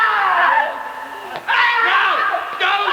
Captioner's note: screams